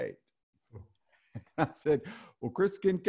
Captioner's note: laughs